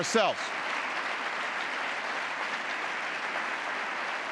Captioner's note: applause